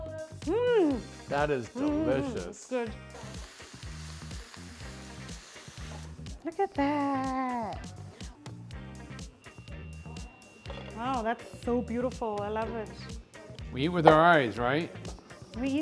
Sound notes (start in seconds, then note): 3.8 food sizzling